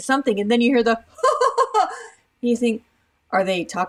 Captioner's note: laughs